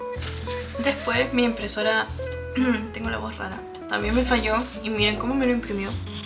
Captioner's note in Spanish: carraspeo